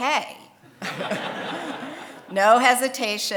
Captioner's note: audience laughing